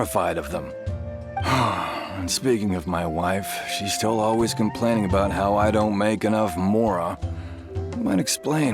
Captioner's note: sigh